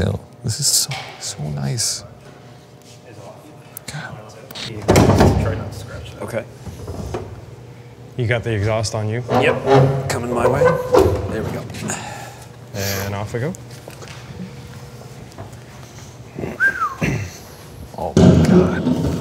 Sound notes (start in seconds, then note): 16.5 whistles